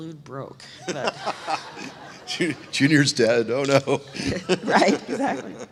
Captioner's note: laughs